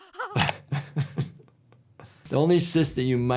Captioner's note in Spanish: Hermana queef riendo; El médico de urgencias se ríe